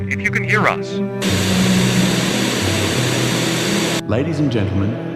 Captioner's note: Static